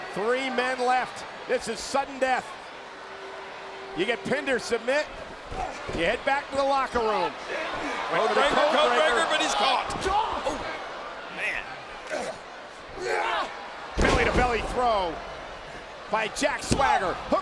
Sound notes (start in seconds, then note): 12.0 Swagger grunting